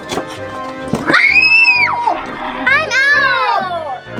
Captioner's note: screams